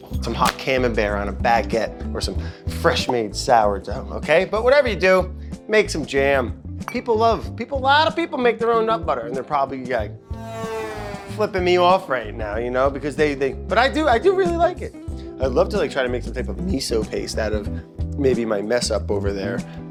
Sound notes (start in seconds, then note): 10.4 plane turbo sounds